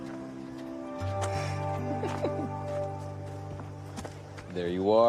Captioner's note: scoffs